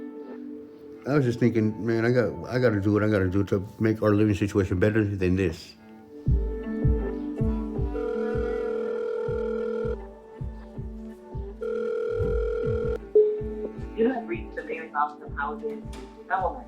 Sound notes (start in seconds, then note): 7.4 telephone ringing; 11.6 telephone ringing; 13.2 answering machine beep